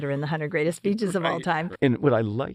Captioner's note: laugh